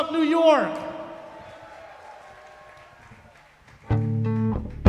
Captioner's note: applause, cheering